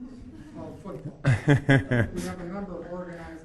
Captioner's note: scattered chuckling